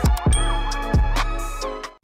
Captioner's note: bell sound